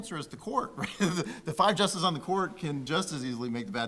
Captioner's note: laughing